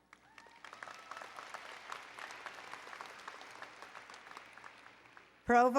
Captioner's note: applause